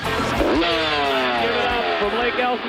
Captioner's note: revs